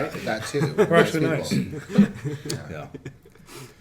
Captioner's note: laughing